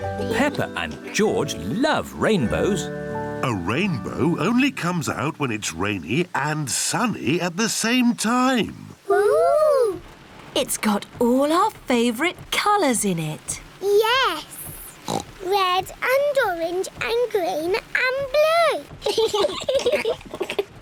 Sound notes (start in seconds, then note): 15.0 oinks; 19.0 both laugh